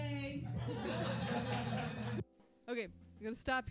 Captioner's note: laughter